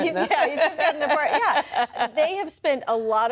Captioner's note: laughter